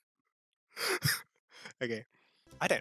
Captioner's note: more sad, lonely laughter